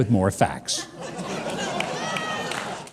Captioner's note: audience laughing